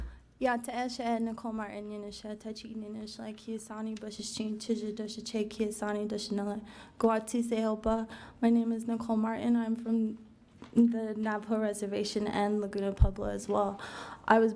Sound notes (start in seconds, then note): 0.7 speaking foreign language